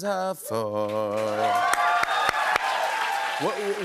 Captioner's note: cheers and applause